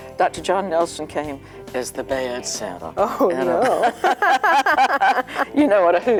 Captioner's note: laughing